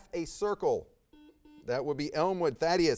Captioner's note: buzz